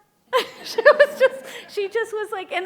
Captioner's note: laughing